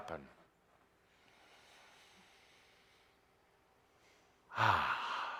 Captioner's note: Adamus takes a deep breath